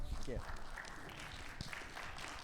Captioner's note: audience claps